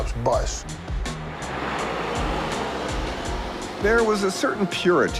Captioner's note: smooth rhythmic music; bus engine roaring